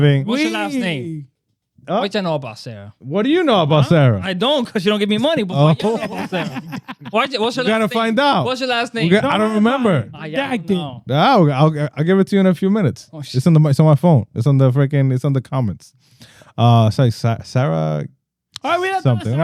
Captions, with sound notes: What's your last name? What do you know about Sarah? What do you know about Sarah? I don't, because you don't give me money. (Laughing) What's your last name? I don't remember. I don't know. I'll give it to you in a few minutes. It's on my phone. It's on the freaking, it's on the comments. Sorry, Sarah. Oh, we don't know Sarah.